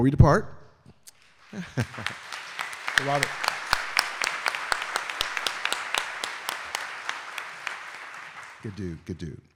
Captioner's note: audience applauding